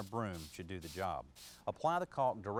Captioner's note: sweeping